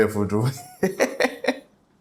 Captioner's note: laughs